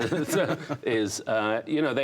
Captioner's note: laughter